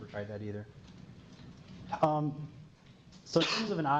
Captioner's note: pause